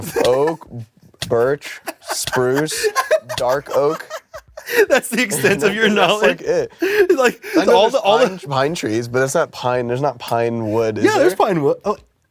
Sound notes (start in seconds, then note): 0.0 building laughter; 6.8 gasping for air